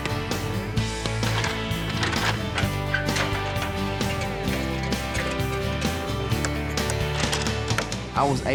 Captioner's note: hammering